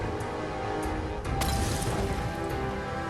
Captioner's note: molotov sound; krrsh! Fwoom!